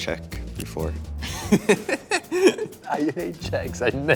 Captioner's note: interviewee laughing